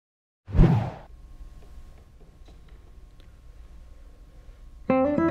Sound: silence

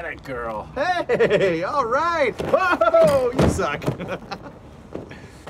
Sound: laughing; laughs

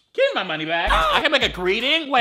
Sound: boy grunts

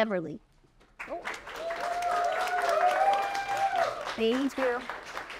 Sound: applause

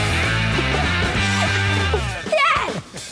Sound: laughter

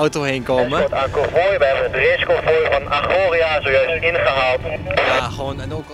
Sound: radio

